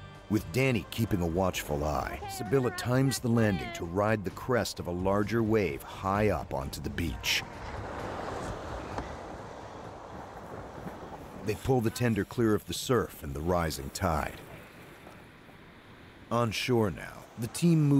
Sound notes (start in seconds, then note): 7.1 adventurous music; 10.6 voiceover